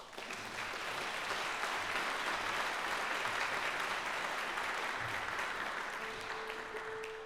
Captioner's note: applause